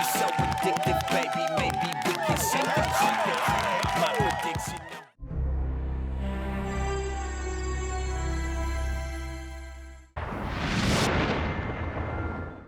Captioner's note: r&b music playing; audience cheering